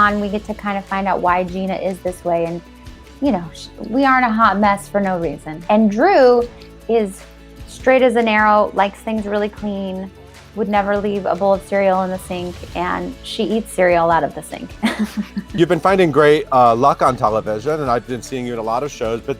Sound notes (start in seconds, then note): 14.8 laughing